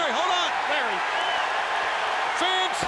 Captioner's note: audience cheers